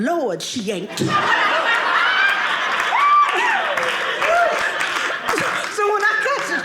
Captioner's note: audience laughing